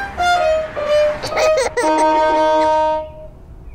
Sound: laughs

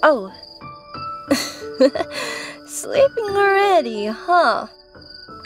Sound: chuckled

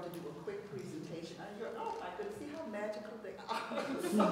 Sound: laughs

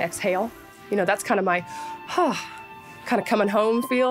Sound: sighs

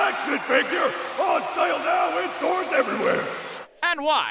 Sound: crowd cheers

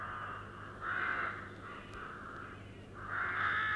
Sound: crows caw

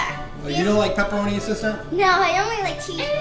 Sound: voiceover

